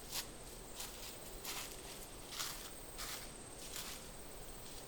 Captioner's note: leaves crunching